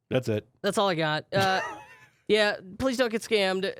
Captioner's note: laughs